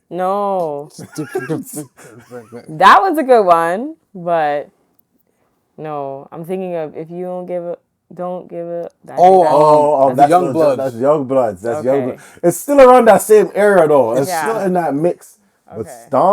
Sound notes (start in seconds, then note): 0.8 laughing